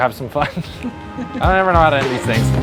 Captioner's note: all chuckle